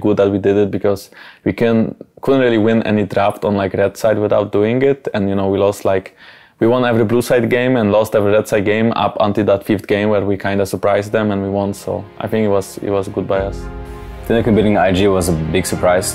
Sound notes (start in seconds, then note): none